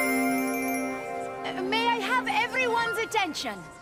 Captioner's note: hum of chatter